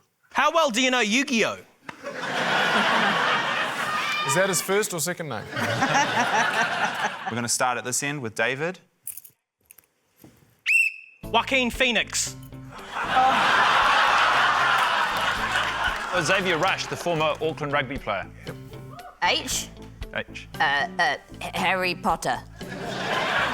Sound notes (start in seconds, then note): 1.9 laughter; 5.4 laughter; 10.6 blows whistle; 12.8 laughter; 22.6 laughter